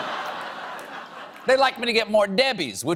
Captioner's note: laughter